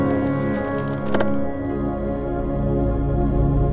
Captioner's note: Car door opens